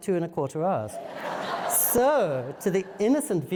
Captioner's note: laughter